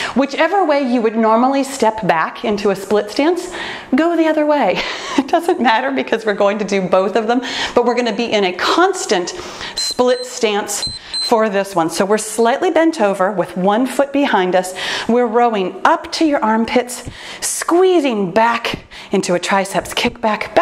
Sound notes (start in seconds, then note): 10.7 timer beeps